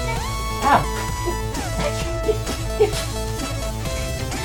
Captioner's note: yelling